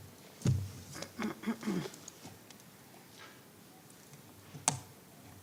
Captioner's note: clearing throat